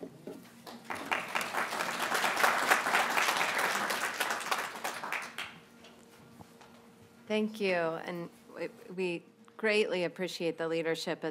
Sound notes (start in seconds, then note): 0.6 applause